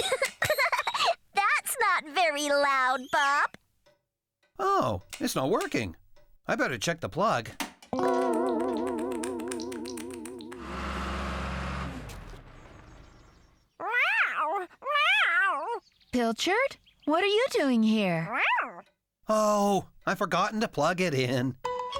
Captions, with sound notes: ( Giggling ) THAT'S NOT VERY LOUD, BOB! OH, IT'S NOT WORKING. I BETTER CHECK THE PLUG. ( Nibbling ) MEOW! MEOW! PILCHARD? WHAT ARE YOU DOING HERE? MEOW! OH...I'VE FORGOTTEN TO PLUG IT IN!